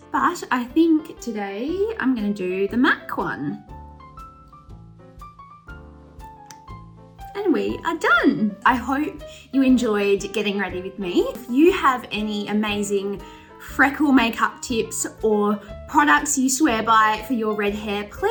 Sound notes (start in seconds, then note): 3.8 elegant jazzy piano music; 6.6 lid clicks